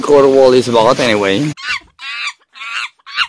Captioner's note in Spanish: alarido de simio